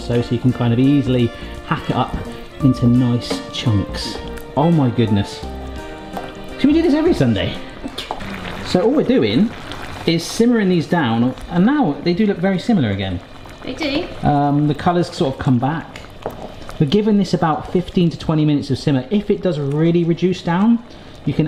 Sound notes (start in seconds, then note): 8.3 pans bubbling